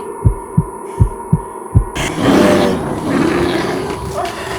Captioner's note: heart beating